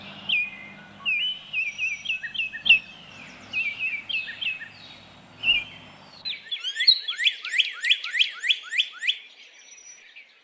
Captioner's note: bird calls